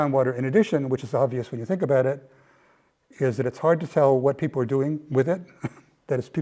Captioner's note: laugh